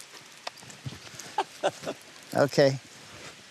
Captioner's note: laughs